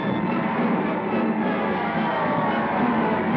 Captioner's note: shouting, Cheering